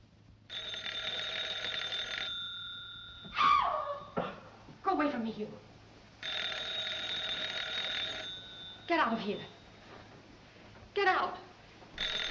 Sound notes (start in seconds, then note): 0.4 phone rings; 3.3 screams